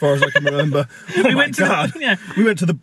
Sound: both laugh

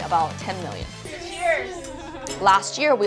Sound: crowd

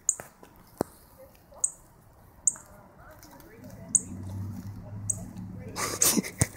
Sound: bird Tweets

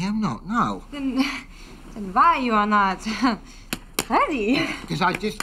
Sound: chuckles

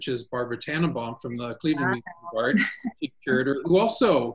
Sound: audio is choppy

